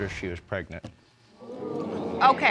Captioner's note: audience exclaims